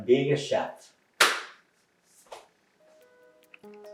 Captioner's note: clap!